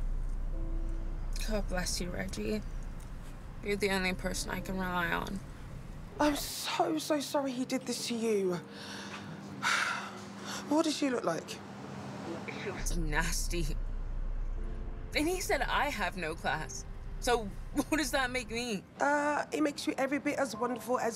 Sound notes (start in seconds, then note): 8.7 sighs